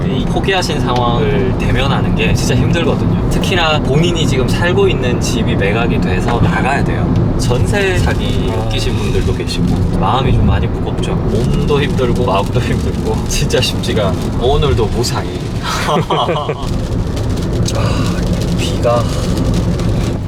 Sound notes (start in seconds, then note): 15.6 chuckles